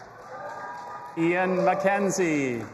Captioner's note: audience applauding and cheering